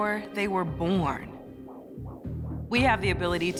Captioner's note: heartbeat murmuring